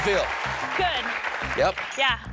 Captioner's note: cheers and applause